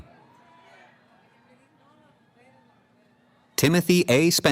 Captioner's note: cheering